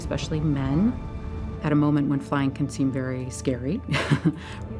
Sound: laughs

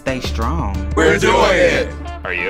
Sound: voiceover

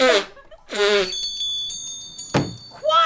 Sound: bell ringing

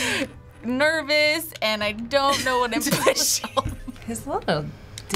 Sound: laughing

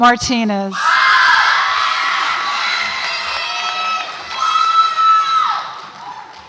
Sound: audience applauds and cheers

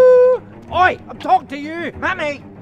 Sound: shouts

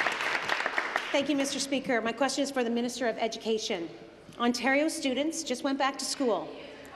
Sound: applause

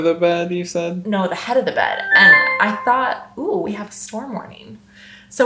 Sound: alarm dings

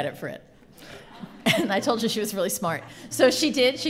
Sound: laughter

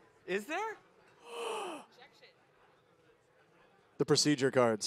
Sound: gasps

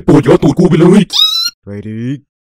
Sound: scream

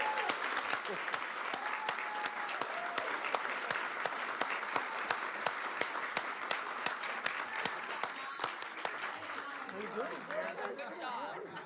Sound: applause

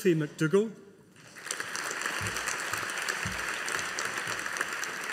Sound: audience applauding

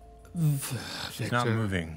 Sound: sighs

